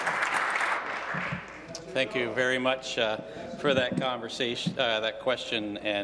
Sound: applause

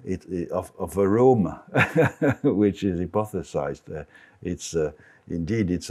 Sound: laughs

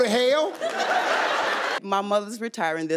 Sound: audience laughing

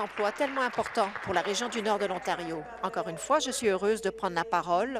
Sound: applause

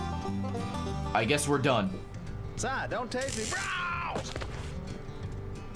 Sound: screams

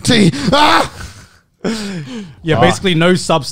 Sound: laughing

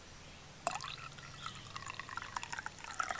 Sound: coffee pouring

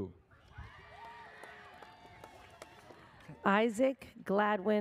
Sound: audience cheers

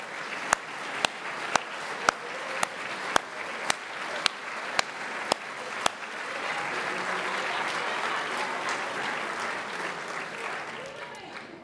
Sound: applause

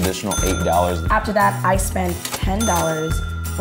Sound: cash register rings

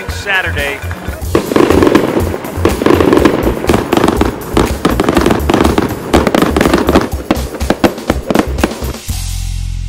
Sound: fireworks display

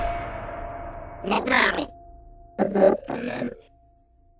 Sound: robots chattering

